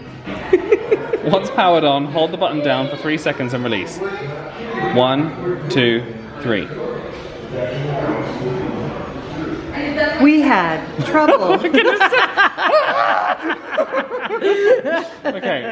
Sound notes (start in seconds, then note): 10.6 mimics AI voice; 14.4 they laugh